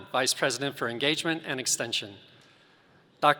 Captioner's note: none